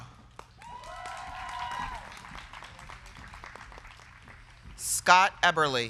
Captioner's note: crowd cheering; crowd clapping